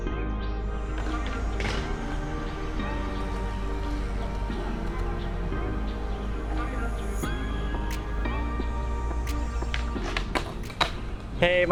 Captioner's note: mellow electronic music; skateboarding sounds